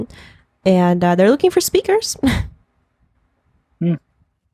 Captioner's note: laughs